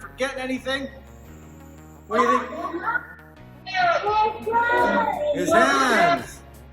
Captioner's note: children yelling out answers